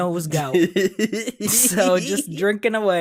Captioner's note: chuckles